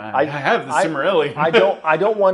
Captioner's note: laughs